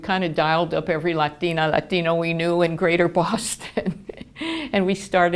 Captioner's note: laughing